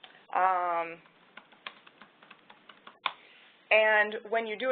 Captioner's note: typing